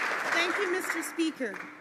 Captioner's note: some Applause